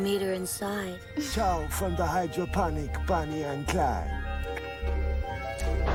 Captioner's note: clicks tongue